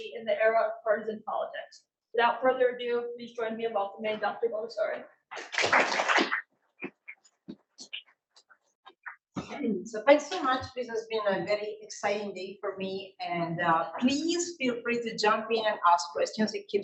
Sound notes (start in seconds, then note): 5.3 audience applauding